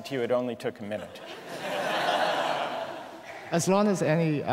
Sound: laughter

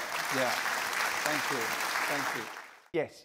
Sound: applause

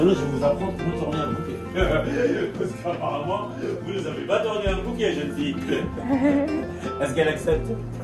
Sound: laughs

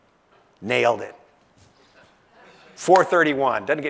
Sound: laugh

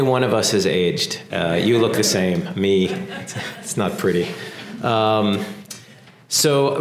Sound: laugh; laugh

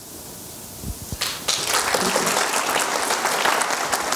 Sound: applause

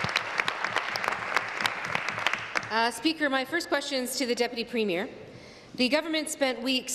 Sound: applause

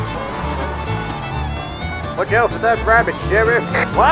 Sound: on Police Radio

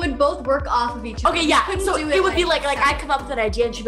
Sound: murmurs

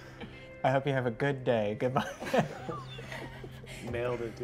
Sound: laughs

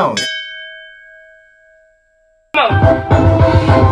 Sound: bell rings; upbeat music

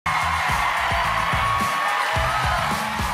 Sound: cheers and applause

